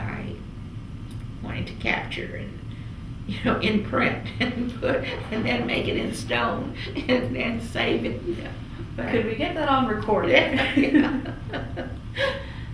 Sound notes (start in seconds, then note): 8.2 laughs; 10.4 laughter